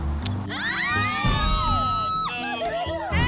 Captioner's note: daughters screaming